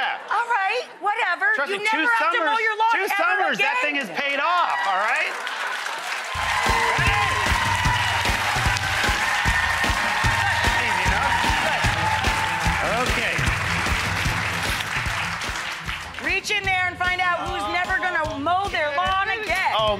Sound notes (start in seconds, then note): 5.3 audience applause; 8.9 cheers and applause